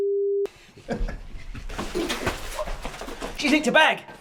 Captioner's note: chuckles